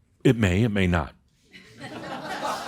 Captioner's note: laughter